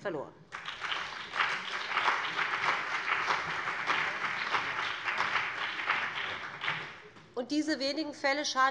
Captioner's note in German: Beifall BÜNDNIS 90/DIE GRÜNEN und CDU